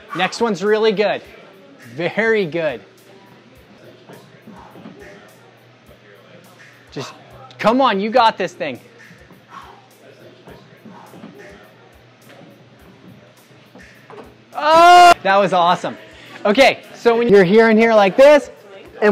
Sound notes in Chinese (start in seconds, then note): 3.7 群众谈话声